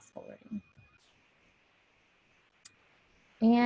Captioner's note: pause